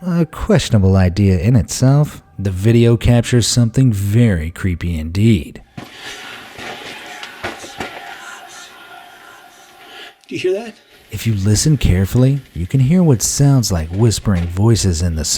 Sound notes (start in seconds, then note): 5.9 echoing voices; 10.4 voiceover